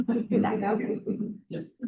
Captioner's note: trustees chuckling